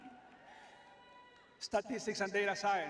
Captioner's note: cheering